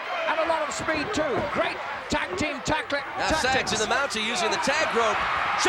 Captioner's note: none